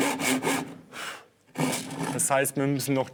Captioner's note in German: Pusten